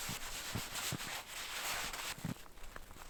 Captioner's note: swishing in snow